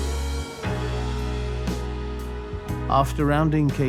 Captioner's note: in English